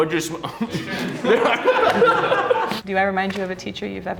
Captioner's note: laughs